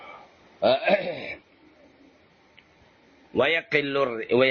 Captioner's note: clears throat